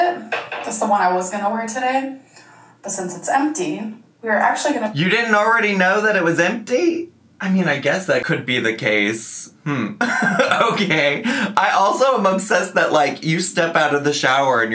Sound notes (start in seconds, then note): 9.7 laughing